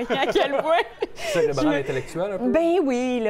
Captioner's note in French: rire